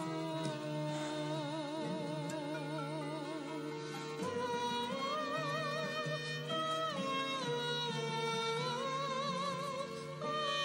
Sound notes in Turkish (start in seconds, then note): none